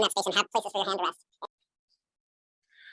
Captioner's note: none